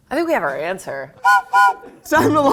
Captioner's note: whistle blows